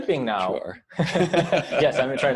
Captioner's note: laughter